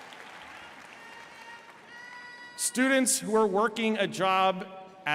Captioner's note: applause